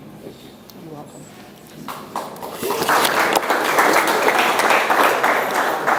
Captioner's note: audience applauds